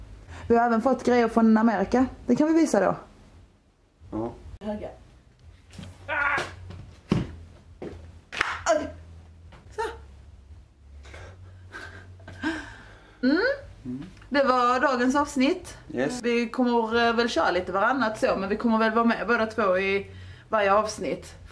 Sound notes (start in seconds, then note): 6.0 groaning